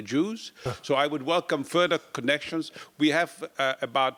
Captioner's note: laugh